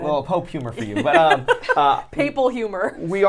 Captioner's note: laughs